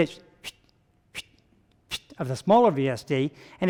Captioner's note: vocalizing high whistle